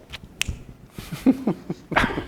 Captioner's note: fingers snapping; chuckling